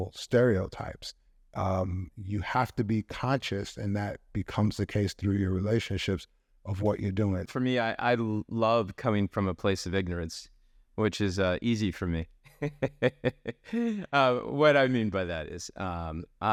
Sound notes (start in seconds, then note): 12.6 laughs